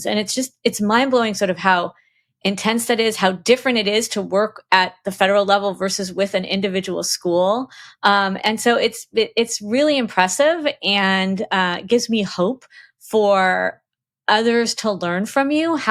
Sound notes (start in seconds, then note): none